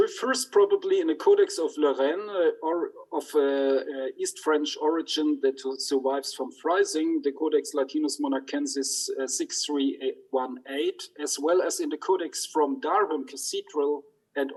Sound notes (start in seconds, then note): 8.2 speaks in foreign language